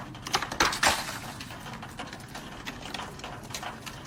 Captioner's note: ice clattering